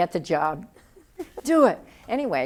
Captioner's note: excited voice